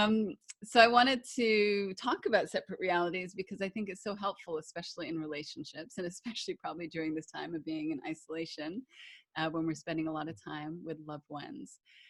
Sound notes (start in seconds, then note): none